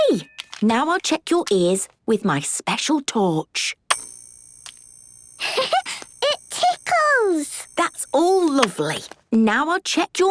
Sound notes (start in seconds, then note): 5.4 giggles